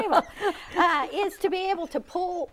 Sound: laughing

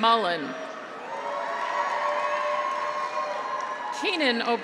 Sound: graduates cheer; audience applauds

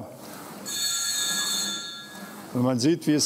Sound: ringing

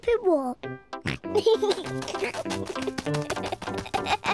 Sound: snorts and giggles

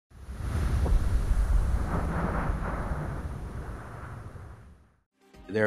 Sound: wind noise

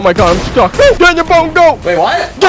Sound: loud gunshot

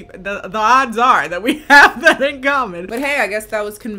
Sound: laughs

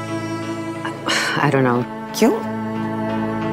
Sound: Ananya gasps

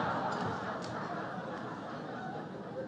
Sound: laughter

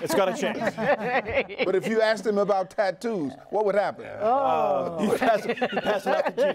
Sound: laughter

